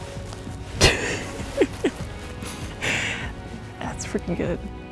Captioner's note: Aislinn laughs